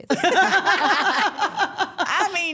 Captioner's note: everyone laughs